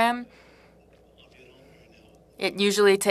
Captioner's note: speaking french